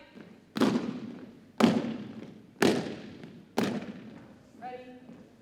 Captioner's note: rhythmic thumping continues